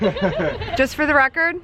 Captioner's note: laughs